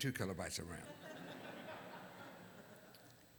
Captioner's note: laughter